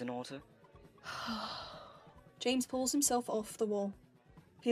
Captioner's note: James sighs